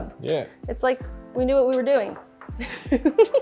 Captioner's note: giggles